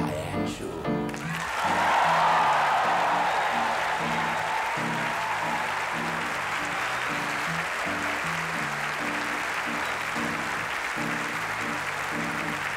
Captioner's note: crowd cheers